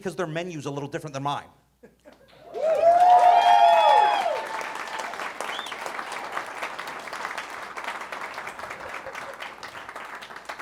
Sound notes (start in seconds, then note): 2.4 audience cheering